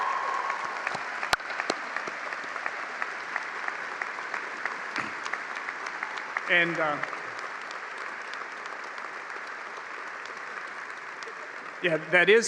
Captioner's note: cheers and applause